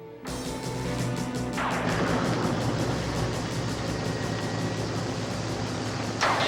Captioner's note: upbeat music; thunder crashing